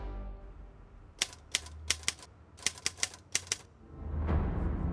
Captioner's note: typewriter clicking